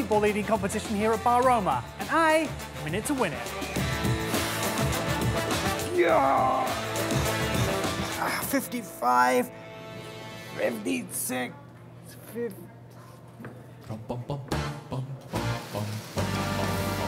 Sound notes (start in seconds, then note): 5.9 grunting; 14.3 jaunty music